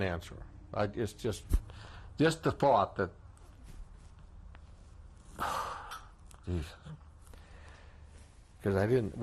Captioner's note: sighs